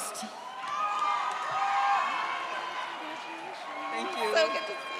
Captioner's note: audience cheers